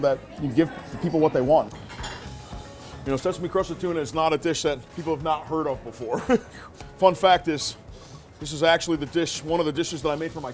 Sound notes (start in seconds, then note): 6.1 chuckles